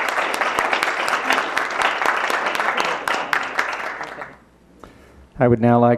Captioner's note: applause